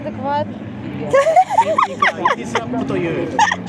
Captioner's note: laughter